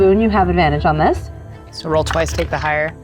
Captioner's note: die rattling